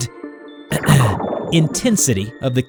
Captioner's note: clears throats